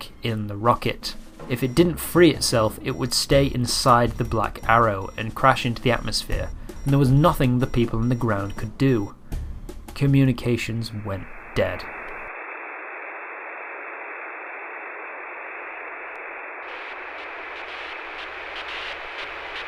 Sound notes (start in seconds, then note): 14.2 satellite beeping